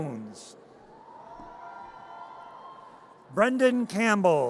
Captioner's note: audience cheers